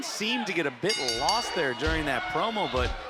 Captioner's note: bell rings